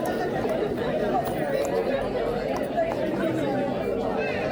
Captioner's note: crowd chattering